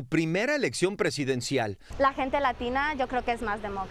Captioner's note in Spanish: HABLA EN INGLéS